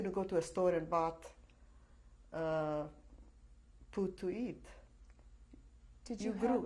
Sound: pauses for 3 seconds

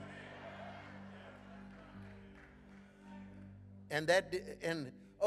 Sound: congregation laughing

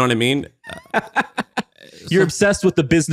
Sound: laughing

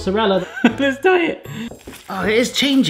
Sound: laughing

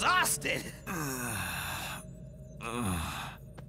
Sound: Shadow groans

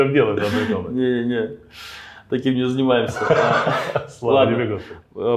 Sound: laughs; laughs

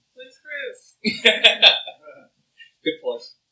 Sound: laughs

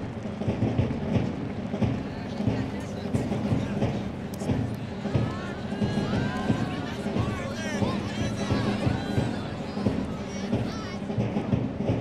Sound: applause

